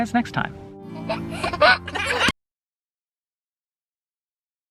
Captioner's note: giggling